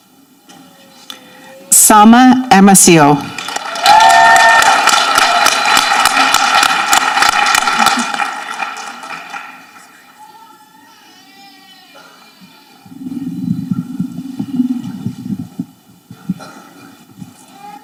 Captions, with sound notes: - Salma Hermosillo. (people applauding and cheering)